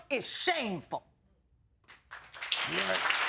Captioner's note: audience applauds